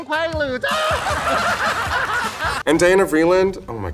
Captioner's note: and audience laughs